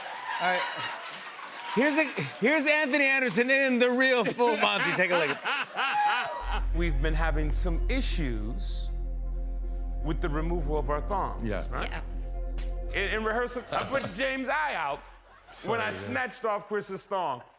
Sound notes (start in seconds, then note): 4.1 laughing